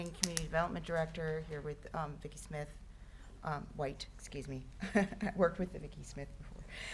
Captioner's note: chuckling